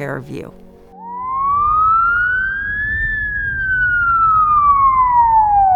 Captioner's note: ambulance siren